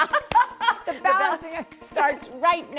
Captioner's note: laughter